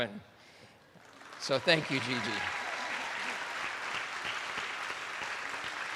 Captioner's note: attendees applauding